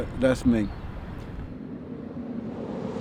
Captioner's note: car engine revving